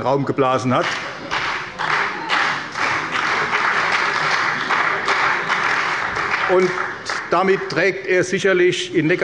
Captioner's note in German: Beifall bei der CDU und dem BÜNDNIS 90/DIE GRÜNEN